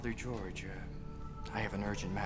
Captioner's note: chanting in a foreign language